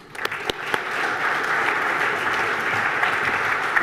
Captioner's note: applause